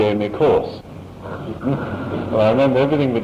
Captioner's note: laughter